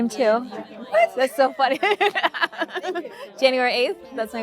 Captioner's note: laughing